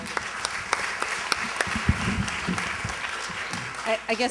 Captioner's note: applause